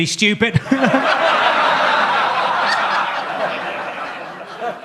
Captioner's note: audience laughs